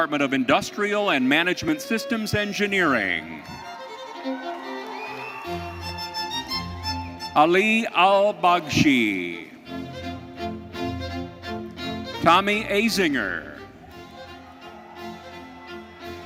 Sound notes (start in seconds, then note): 2.7 audience applauding; 3.6 audience cheering